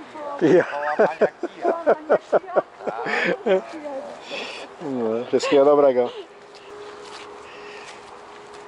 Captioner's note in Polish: śmiech